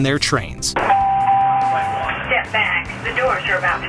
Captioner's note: alarm chiming